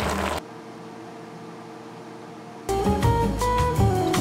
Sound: sizzling

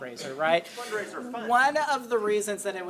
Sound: laughs

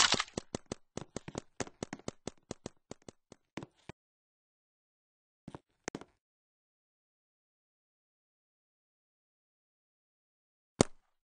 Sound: silence

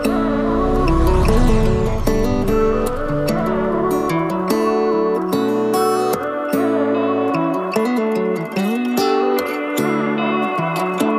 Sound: truck revving

